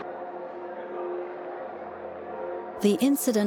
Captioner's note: bells pealing